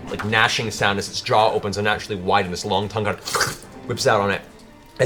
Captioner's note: wet sucking noise